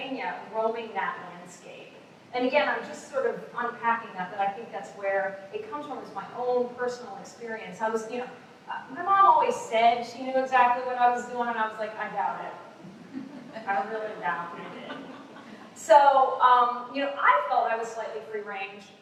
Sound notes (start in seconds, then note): 12.8 laughter